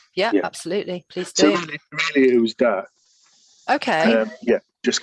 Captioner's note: distortion of sound